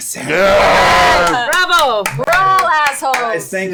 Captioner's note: cheering